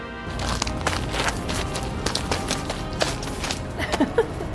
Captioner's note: gravel crunching; laughs